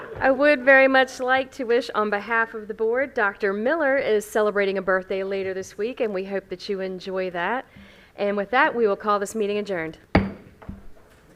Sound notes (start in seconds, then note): 10.1 gavel hitting dais